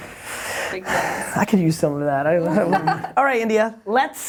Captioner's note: laughs